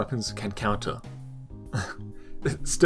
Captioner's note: sensible chuckle